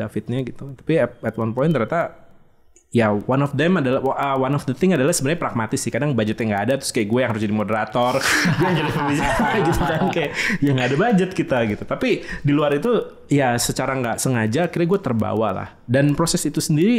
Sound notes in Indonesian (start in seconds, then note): 8.0 Tertawa